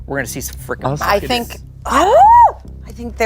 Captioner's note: squeals